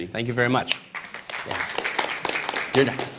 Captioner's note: applause